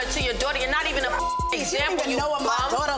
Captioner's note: beep